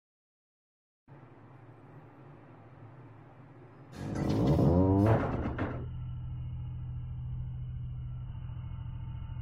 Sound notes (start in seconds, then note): 4.5 factory noises